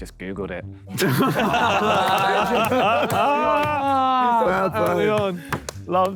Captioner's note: Sidemen laugh